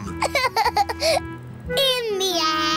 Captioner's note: laughs